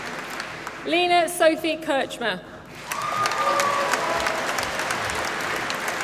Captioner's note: applause